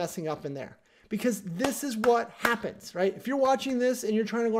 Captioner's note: rhythmic clapping